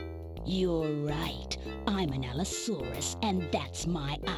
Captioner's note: breathy voice